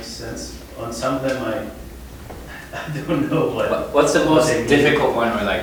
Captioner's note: chuckling